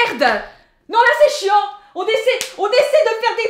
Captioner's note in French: bruit de claque